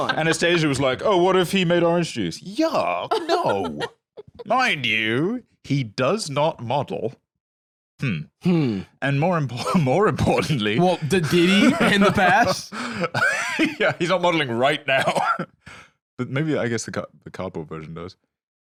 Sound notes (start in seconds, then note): 11.0 laughs